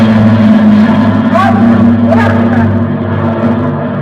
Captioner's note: low flying aircraft